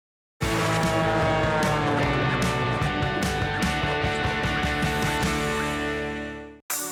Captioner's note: plane engine; upbeat music